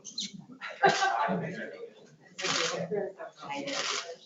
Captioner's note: laughs